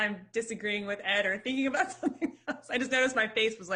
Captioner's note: chuckles